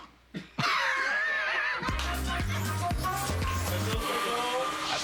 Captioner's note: rires